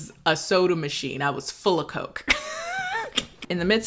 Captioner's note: laughs